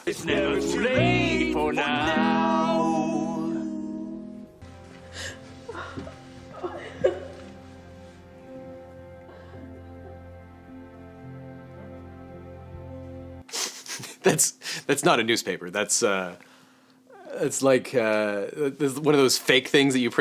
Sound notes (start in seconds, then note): 5.8 soft music; 6.5 Robert's family weeping; 13.6 laughs